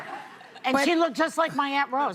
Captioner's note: laughter